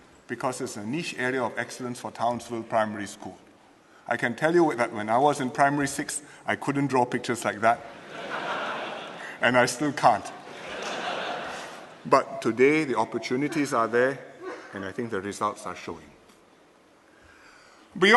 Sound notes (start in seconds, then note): 10.3 laughter